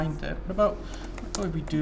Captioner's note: typing